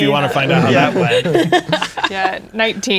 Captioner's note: players laughing